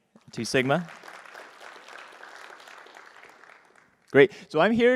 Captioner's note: applause